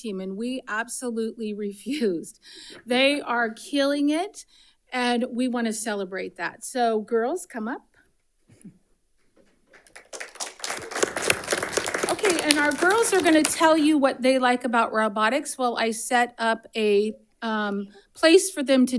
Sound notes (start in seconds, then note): 9.7 audience applauding